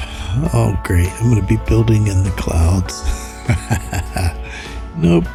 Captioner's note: laughs